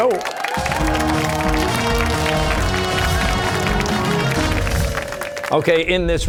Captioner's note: cheers and applause